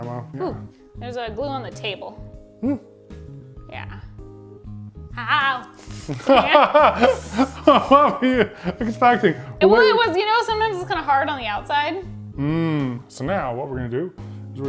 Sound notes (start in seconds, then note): 5.8 laughs